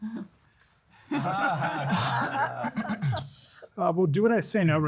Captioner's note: group laughing